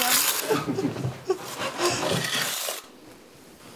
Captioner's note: she laughs